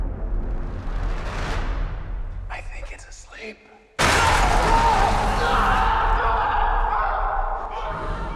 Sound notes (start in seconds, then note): 4.0 men screaming